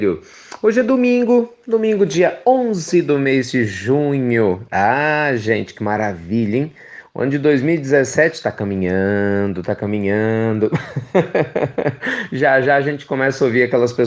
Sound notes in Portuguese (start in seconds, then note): 10.6 risos